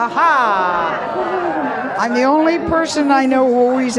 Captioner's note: audience groaning and murmuring